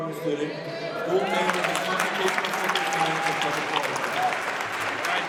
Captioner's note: audience applauds